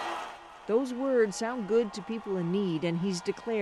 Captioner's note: cheers and Applause